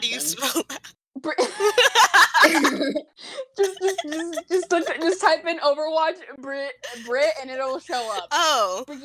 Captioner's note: laughter